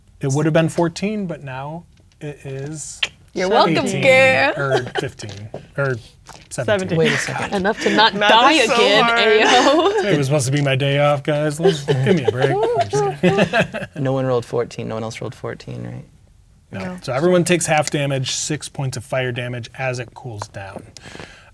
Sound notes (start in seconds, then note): 3.0 clicks tongue; 11.5 laughing; 11.5 players laughing